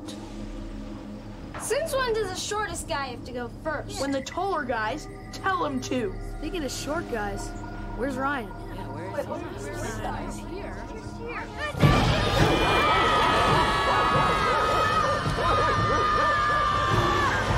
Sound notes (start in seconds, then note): 11.8 all Screaming; 13.3 barking